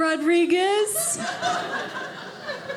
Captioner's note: audience laughing